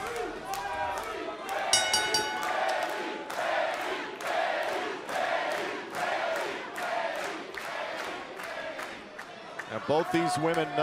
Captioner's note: crowd cheering; bell ringing